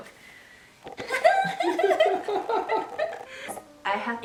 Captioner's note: random laughing